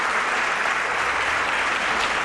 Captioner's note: applause